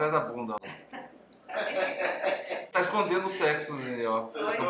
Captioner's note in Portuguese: Risos